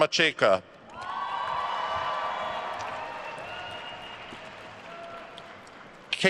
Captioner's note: attendees cheering and applauding